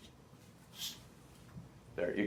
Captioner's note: scratching sound